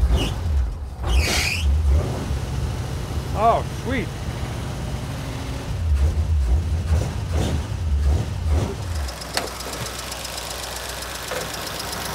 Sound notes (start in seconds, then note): 1.0 engine squeals and starts; 7.1 engine idling